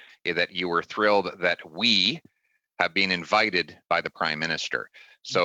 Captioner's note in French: voix de l'interprète